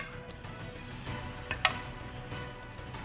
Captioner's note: dice rolling